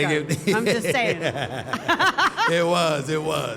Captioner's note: panelists laughing